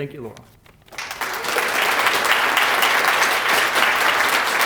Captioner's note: applause